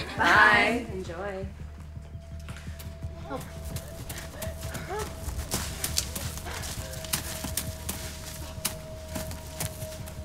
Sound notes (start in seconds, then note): 2.9 anxious music; 3.5 Sheila panting